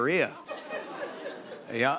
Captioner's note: laughter